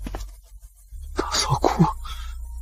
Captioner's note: Sister-in-law cries